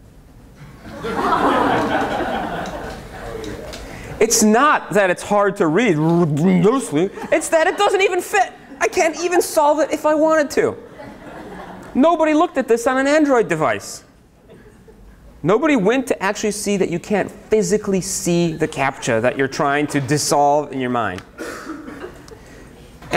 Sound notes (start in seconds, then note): 0.8 laughter; 6.8 mumbles